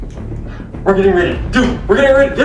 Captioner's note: gasps